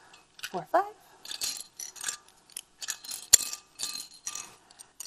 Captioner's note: plastic clinging